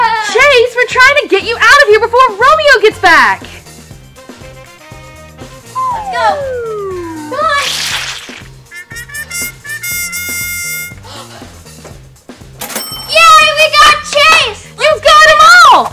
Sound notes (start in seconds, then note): 5.3 swing flute; 6.9 doll sploshing; 8.8 horn blowing; 9.0 sighs; 12.8 bell rings